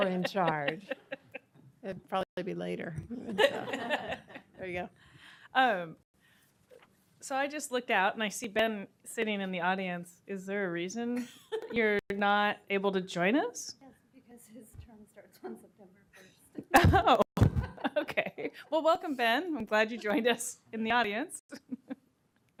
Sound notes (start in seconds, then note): 11.2 laughter